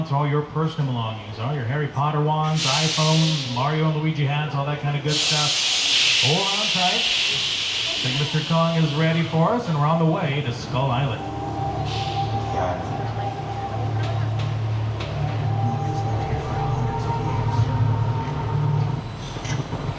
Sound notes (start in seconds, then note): 13.2 soft ominous music; 13.2 tram clattering